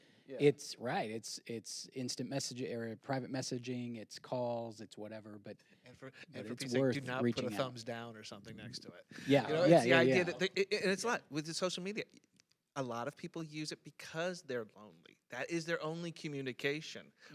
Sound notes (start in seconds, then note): none